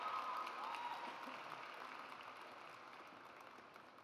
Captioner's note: audience cheers; audience applauds